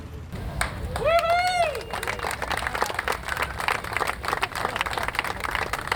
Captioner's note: spectators cheering and applauding